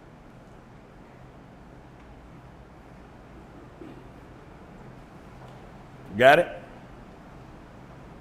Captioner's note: silence